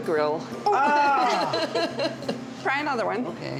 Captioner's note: laughs